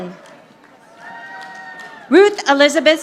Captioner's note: audience applauding